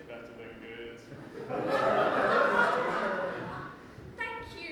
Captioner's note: audience laughs